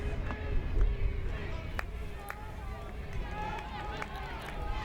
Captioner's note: fans chanting